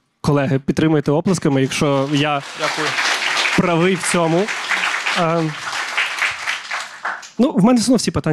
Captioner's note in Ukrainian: лунають оплески